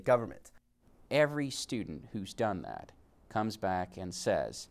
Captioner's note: voiceover